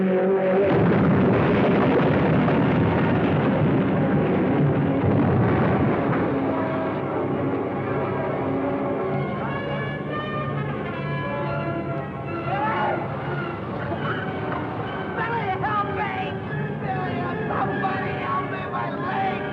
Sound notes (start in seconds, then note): 0.6 cars crashing; 4.8 dramatic music; 4.8 explosion booming